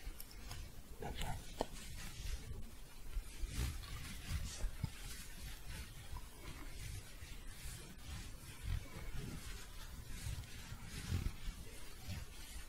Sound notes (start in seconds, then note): 0.0 shuffling; 2.1 continuous shuffling